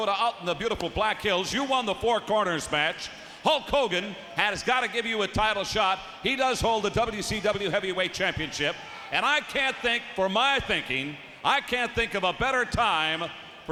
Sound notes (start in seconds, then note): none